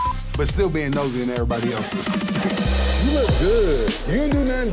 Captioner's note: beep; laughing